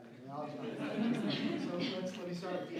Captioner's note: laughs